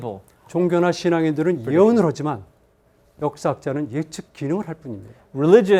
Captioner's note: speaking in Korean